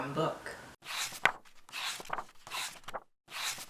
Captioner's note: pages turning